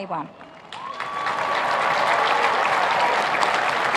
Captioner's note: applauding